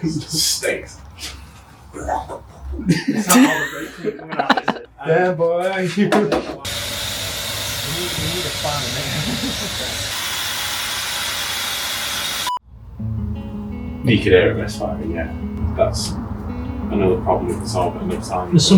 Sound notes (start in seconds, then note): 3.2 choking noises